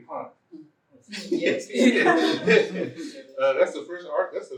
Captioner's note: laughter